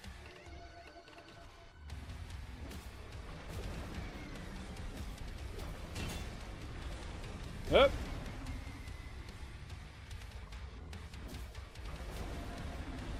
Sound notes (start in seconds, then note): 7.7 dodging noises